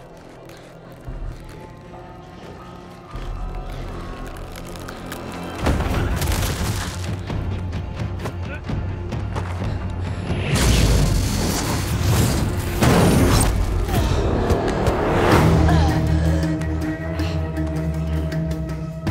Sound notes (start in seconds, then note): 5.5 dramatic music; 10.8 electricity crackles; 14.0 dramatic music; 15.4 Annie grunts and coughs